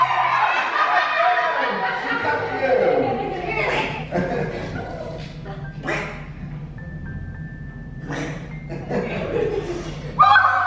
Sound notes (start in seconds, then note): 0.0 shouting; 0.4 laughter; 3.9 quacking